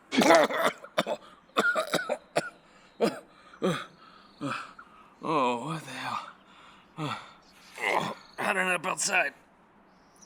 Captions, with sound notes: (Mick heaving) (Mick gasping) - Oh, what the hell? How'd I end up outside?